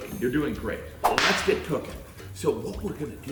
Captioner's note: whip snapping